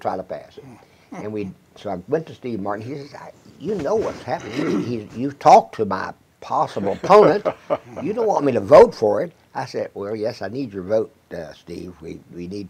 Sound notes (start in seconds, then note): 6.8 chuckles